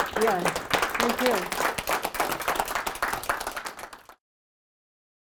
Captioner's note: audience clapping